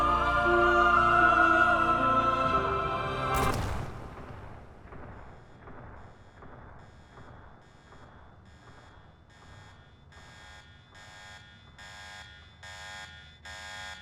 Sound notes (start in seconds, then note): 3.3 shot firing; 5.4 shot echoing; 5.9 alarm blaring